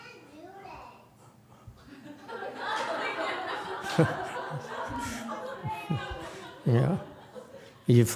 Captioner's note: audience laughs